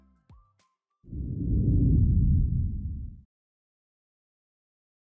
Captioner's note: air whooshes